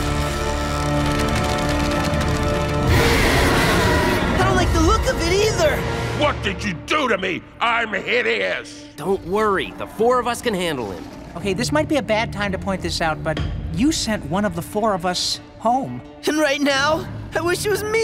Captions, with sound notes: [screeching] Don't like the look of it either. What did you do to me? I'm hideous. Don't worry, the four of us can handle it. Okay, this might be a bad time to point this out, but you sent one of the four of us home. And right now I wish it was me.